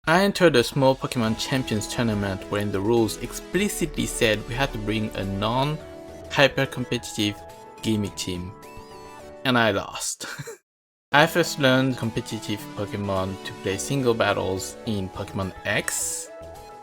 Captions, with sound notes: I entered a small Pokémon Champions tournament, wherein the rules explicitly said we had to bring a non-hyper-competitive, gimmick team. And I lost. (chuckle) I first learned competitive Pokémon to play single battles in Pokémon X,